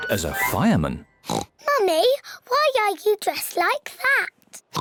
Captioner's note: oinks; oinks